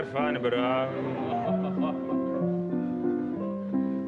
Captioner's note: laughter